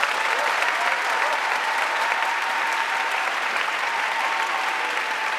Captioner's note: audience cheering and applauding